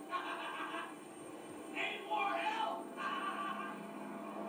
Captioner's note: laughs